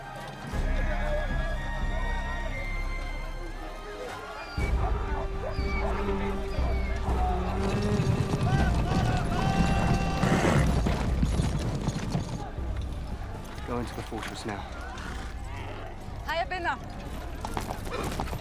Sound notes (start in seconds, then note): 7.7 man shouting in foreign language; 16.1 speaks in arabic